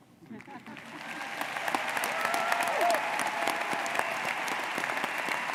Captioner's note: audience applauds